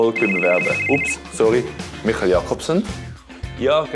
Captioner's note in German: Telefon klingelt